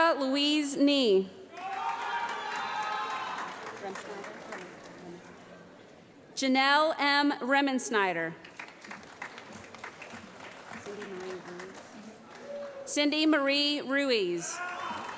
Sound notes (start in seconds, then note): 1.5 applause; 8.4 applause